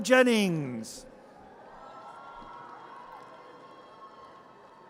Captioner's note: audience cheers